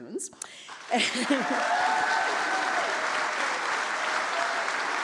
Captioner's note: audience applauds